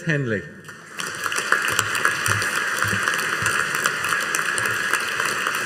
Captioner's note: audience applauding